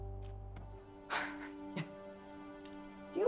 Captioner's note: laughs in frustration